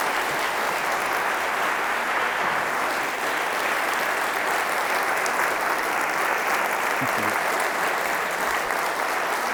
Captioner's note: audience applause